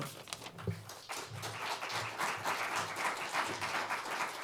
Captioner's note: audience applauds